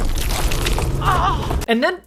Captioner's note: moans